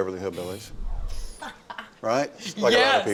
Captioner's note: laughing